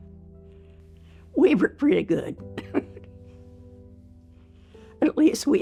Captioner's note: chuckles